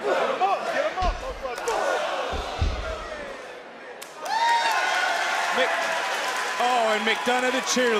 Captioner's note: crowd cheers